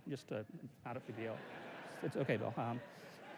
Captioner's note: laughter